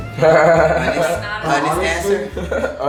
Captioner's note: laughing